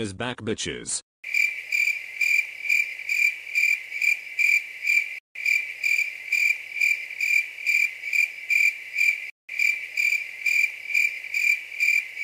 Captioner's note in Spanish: grillos